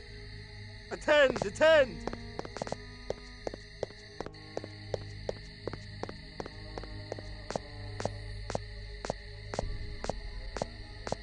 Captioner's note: confused guard sounds